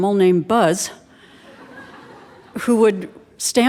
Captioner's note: audience laughing